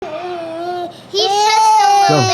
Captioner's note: child crying